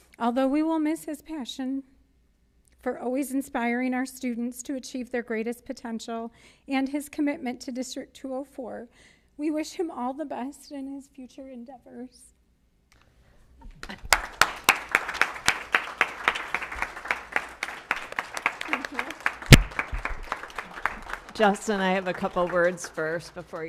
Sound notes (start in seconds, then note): 13.0 applause